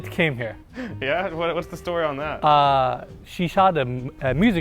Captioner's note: laughs